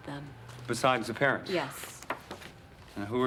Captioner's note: none